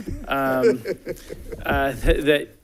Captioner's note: laughs